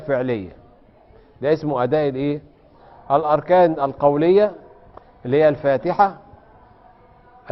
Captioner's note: reciting